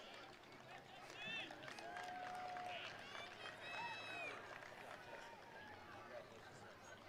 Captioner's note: attendees cheering; attendees applauding